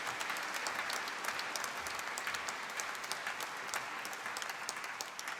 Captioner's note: applause